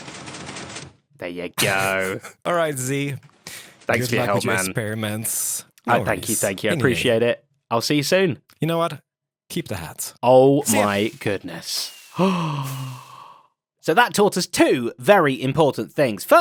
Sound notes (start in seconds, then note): 10.6 gasps